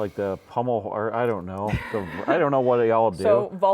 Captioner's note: laughing